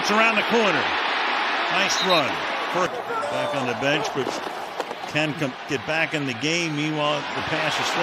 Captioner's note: cheering and applause